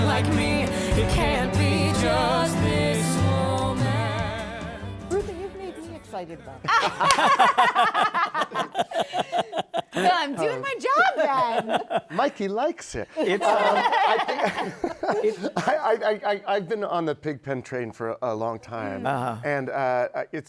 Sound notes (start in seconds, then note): 6.6 laughter; 15.6 laughter